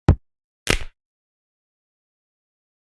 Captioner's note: crack